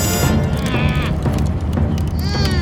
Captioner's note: groaning